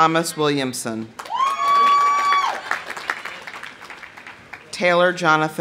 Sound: audience applauding; audience cheering

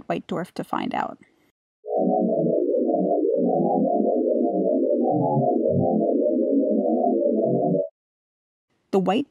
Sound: white Dwarf sonification plays

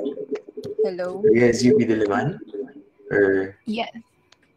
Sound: foreign

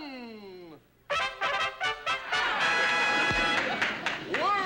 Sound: trumpet fanfare; audience laughing

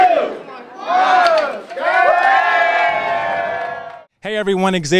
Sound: cheering

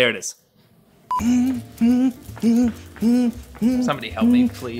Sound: hums

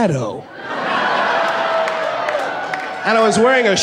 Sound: laughing

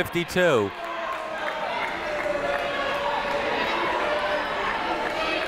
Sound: people shouting in the crowd

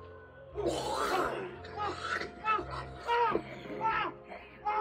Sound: postman screaming

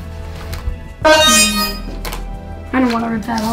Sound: high pitched electronic sound effect

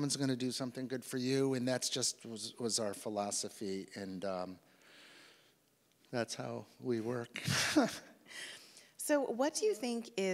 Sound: laughs

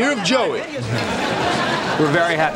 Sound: audience laughing

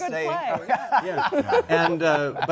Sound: laughter

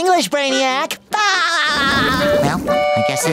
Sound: laughing

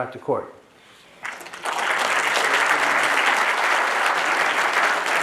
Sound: audience applauding

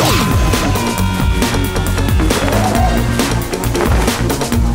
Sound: screaming

